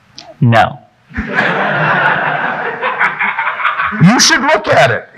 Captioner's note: audience laughing